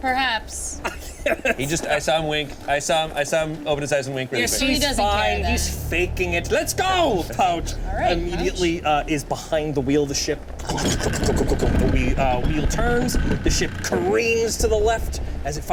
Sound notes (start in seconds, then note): 0.8 laughs; 10.4 wood clanking